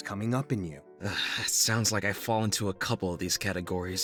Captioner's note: sighs